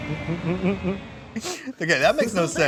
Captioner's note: laughs